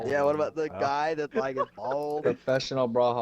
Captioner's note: laughter